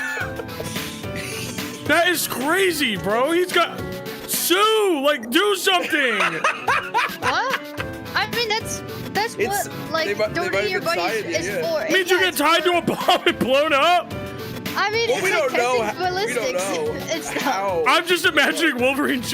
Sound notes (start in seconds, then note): 0.0 laugh; 5.7 laughs